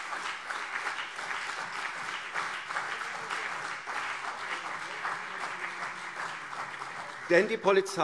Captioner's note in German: Beifall CDU und BÜNDNIS 90/DIE GRÜNEN